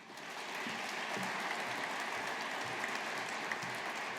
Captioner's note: audience applauding